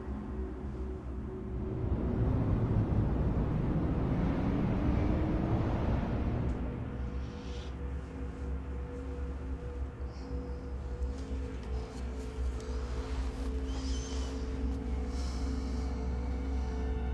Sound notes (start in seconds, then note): 2.1 city ambience; 14.7 ominous music